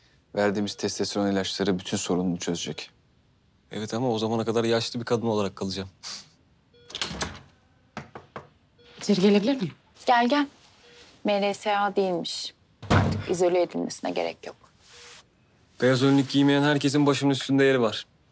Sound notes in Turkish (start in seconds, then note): 6.8 Kapı açıldı